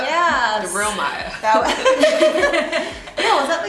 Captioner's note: laughter